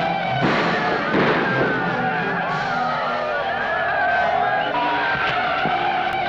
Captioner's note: gunshots blasting; Yaqui shouting